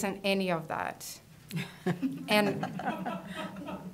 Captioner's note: laughter